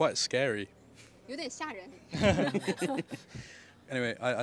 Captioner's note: laughs